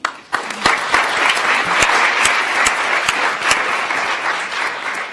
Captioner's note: attendees applauding